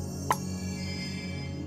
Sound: light chimes

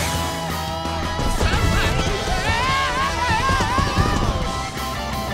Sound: screaming

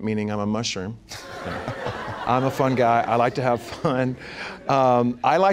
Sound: laughter

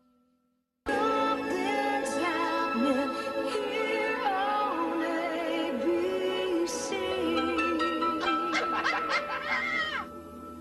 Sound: lady laughing

